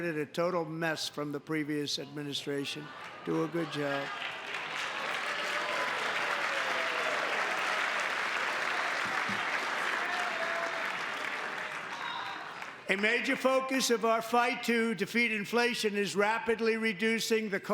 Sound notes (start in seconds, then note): 12.9 applause